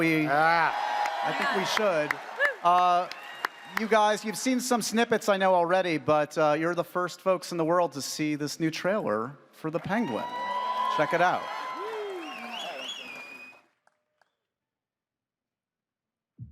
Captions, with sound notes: -(AUDIENCE CHEERS) -Ah! I think we should. You guys, you've seen some snippets, I know, already, but you're the first folks in the world to see this new trailer for The Penguin. -(AUDIENCE CHEERS) -Check it out.